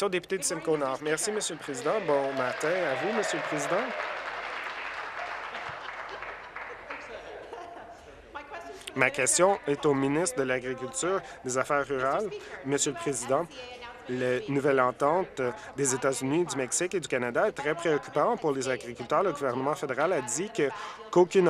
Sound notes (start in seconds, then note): 4.7 applause